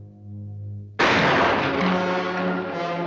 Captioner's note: firing